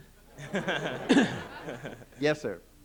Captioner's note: laughter